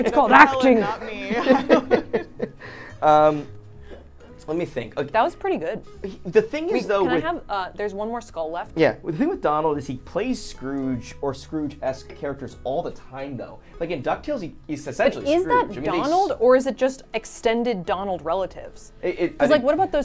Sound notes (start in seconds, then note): 0.0 all laughing